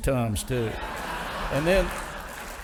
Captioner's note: audience laughing